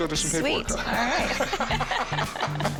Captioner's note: both laugh